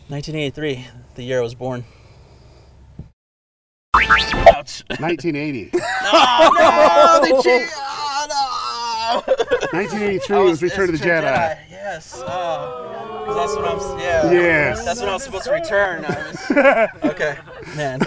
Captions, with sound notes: - 1983, the year I was born. - 1980. - Oh no. (grumbles) - 1983 was Return of the Jedi. (crowd booing) - That's when I was supposed to return. Okay.